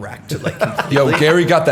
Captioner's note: laughter